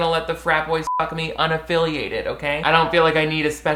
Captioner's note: beep